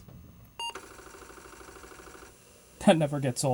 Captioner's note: startup beep, followed by disk drive knocking sounds